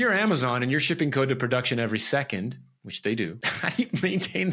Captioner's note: laughs